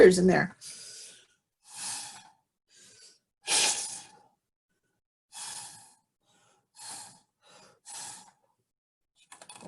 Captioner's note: blowing Through Straw